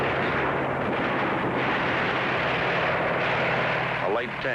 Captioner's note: tank engine roaring